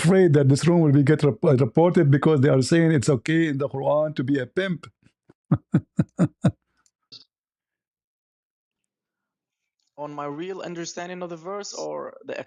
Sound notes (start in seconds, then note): 5.5 ketawa